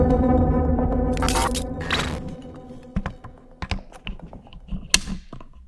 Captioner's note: static crackling